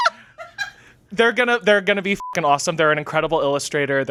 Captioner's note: laughing; beep